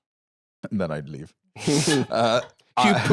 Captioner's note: laughs